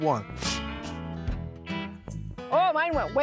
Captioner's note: both spitting